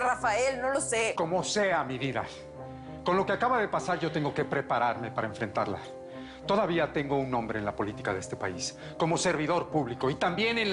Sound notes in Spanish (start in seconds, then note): none